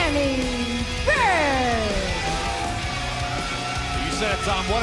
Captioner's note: crowd cheering